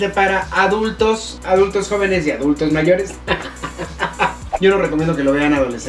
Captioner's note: laughs